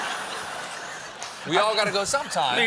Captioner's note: laughter